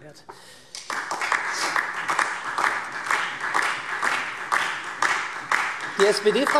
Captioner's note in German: Beifall SPD und DIE LINKE